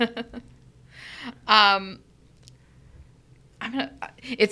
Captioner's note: laughing